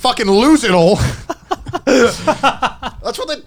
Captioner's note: laughs